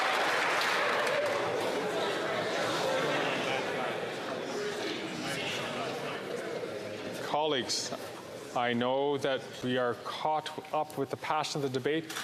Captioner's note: some Applause